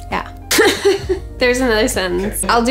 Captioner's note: chuckles